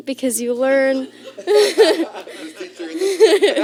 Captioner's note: laughter